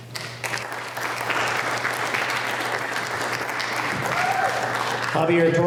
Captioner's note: applause